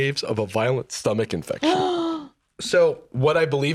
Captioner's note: gasps